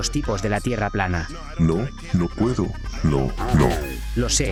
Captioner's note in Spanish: pitido